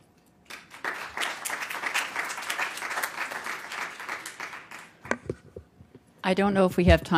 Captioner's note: applause